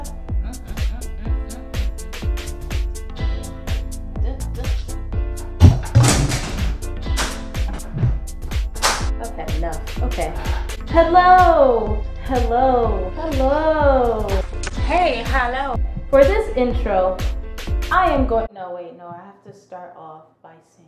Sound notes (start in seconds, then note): 6.8 frustrated slap